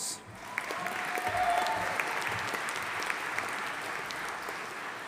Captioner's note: audience applauding